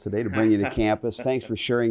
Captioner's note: laugh